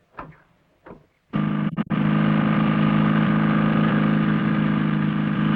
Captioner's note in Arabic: صوت المحرك